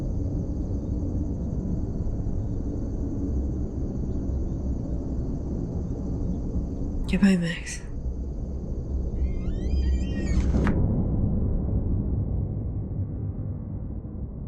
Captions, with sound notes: Goodbye, Max. (door creaking)